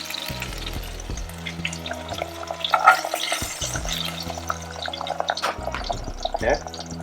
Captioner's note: chicken simmers, bubbling liquid